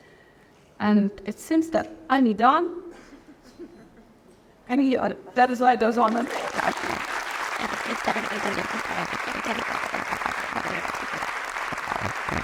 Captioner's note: applause